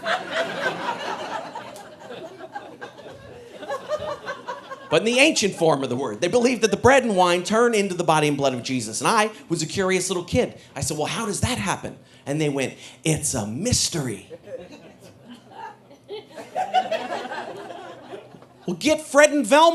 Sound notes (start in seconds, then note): 0.0 audience laughing; 17.2 audience laughing